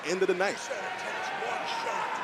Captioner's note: crowd cheering